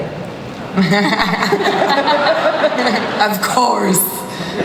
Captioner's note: laughter